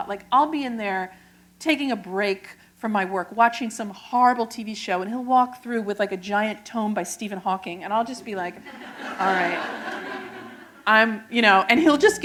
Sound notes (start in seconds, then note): 8.6 laughter